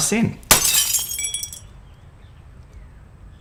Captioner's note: glass shatters